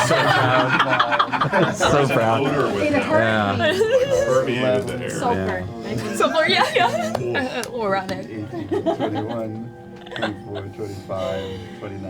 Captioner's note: all laugh